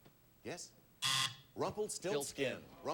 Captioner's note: buzzer sounds